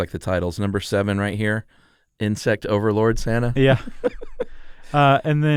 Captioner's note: laughs